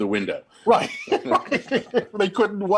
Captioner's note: both chuckling